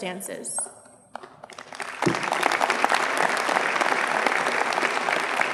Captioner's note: audience applauds